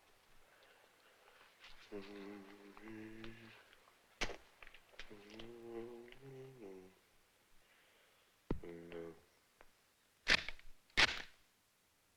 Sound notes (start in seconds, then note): 1.8 humming; 11.0 gun cocking